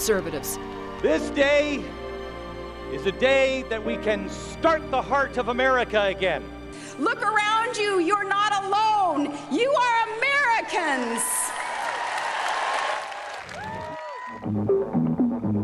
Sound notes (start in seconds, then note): 14.0 cheering